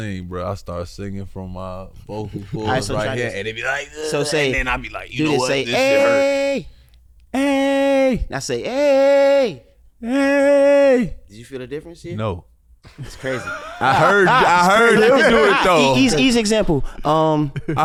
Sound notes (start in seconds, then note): 2.5 groans; 12.9 laughing